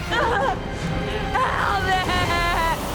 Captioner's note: straining groans